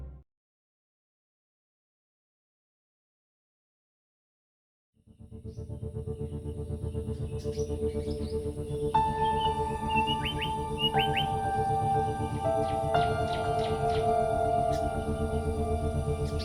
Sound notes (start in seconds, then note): 5.0 suspenseful music; 6.9 birds chirping